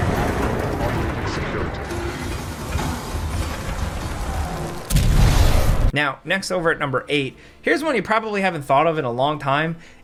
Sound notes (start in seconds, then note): 1.9 doors whirring; 4.9 explosion blasts